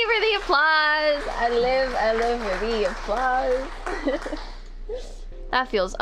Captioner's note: giggle